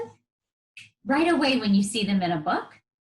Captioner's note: fingers snapping